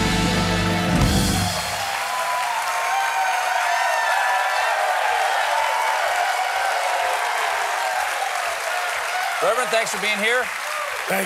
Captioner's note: cheers and applause